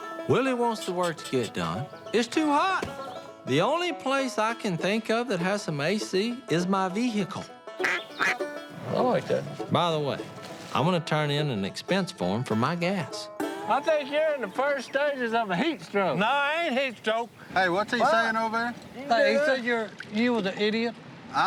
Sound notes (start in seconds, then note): 7.8 blows duck call